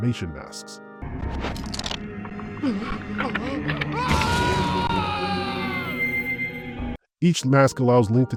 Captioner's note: Sounds of bones creaking as Link gasps and yells in pain